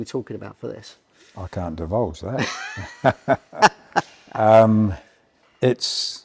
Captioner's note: both laugh